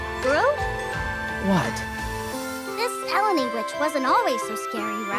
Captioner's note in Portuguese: game audio